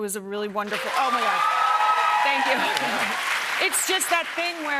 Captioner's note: cheers and applause